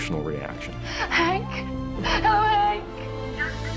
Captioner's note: crying